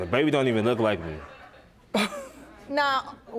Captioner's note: scoffs